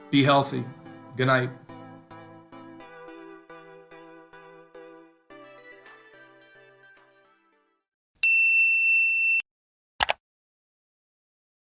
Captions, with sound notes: Be healthy. Goodnight. (upbeat music) (like button dinging) (subscribe button clicking)